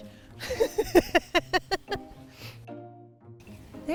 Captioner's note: laughing